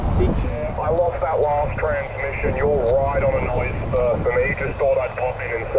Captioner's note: radio